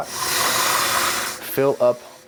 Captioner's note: water running